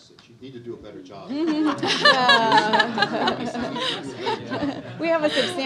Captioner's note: audience laughs